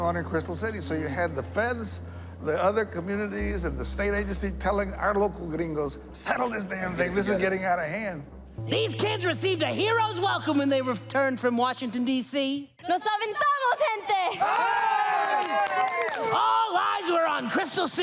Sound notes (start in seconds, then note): 14.4 all cheering